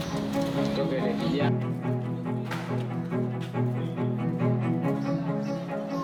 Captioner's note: peaceful music; chatter in background